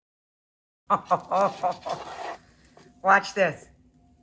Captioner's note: Rachael laughs